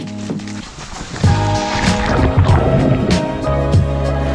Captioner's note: water splashing